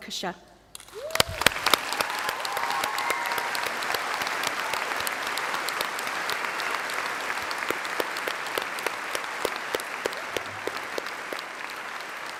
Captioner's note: applause